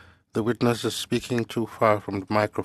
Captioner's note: speaking French